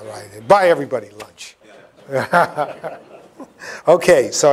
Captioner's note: laughter